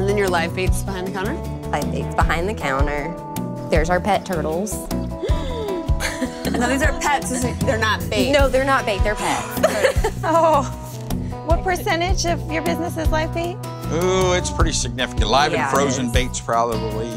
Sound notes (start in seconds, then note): 5.1 gasps; 9.2 sighs; 9.3 laughs